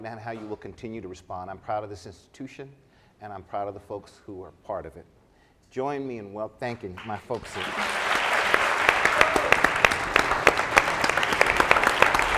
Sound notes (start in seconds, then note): 6.9 applauding